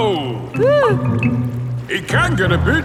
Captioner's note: whimpers